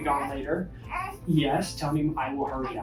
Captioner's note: baby babbles